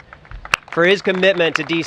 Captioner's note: applause